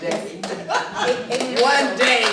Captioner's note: applause